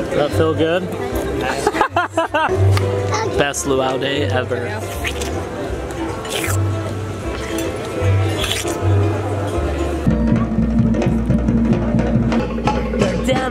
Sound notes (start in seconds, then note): 1.6 laughs; 6.1 watermelon slurps; 7.3 slurps; 8.2 watermelon slurps; 10.0 rhythmic drumming